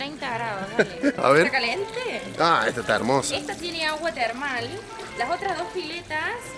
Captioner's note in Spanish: risas